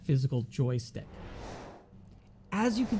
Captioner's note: air whooshing